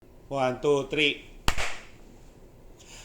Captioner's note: clap!